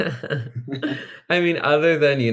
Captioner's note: group laughing